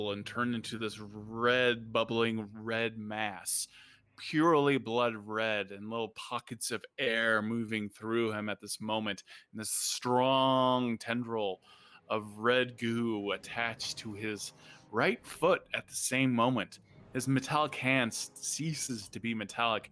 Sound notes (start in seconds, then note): none